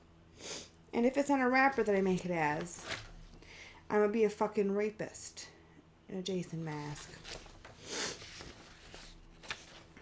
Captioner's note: sniffles